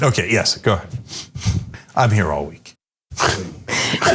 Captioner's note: laugh